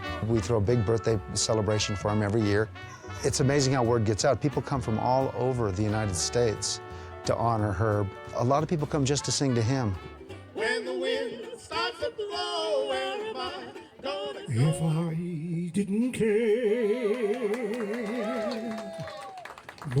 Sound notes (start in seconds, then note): 17.0 audience cheering; 17.1 audience applauding